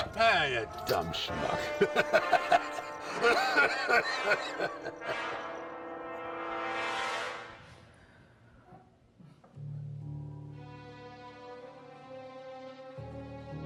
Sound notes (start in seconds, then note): 0.0 laughs; 3.3 Pappy coughs and laughs; 9.4 gentle music